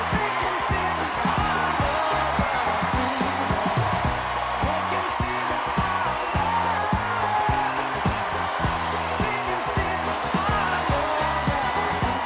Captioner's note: cheers and applause